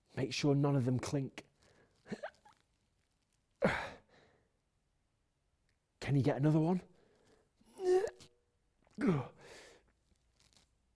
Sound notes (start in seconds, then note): 3.6 finally sighing; 7.7 sighing